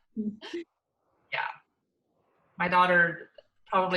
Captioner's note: both laughs